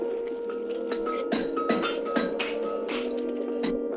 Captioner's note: metal clanging